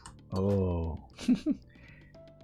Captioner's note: laughs